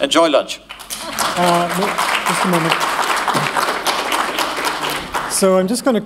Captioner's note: applause